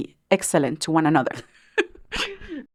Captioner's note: laughs